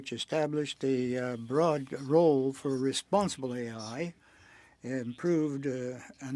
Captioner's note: speaking French